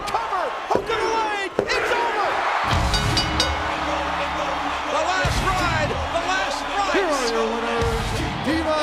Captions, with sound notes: The cover, hook of the leg, it's over. (rock music) (bell dings) The Last Ride, the last rites. Here are your winners,